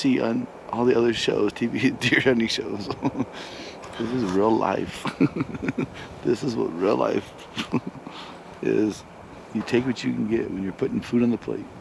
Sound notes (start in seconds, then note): 4.8 laughing